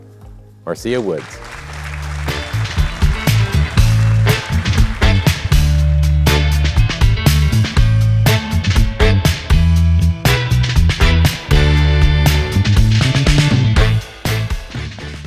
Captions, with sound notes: Marcia Woods! (upbeat music) (audience applauding)